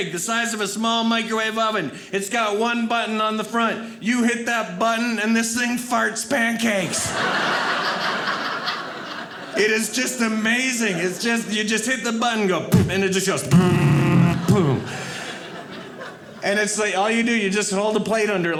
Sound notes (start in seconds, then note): 6.8 audience laughing; 13.4 fart sounds